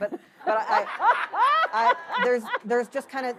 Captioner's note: laughter